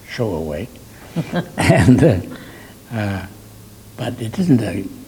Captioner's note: laughing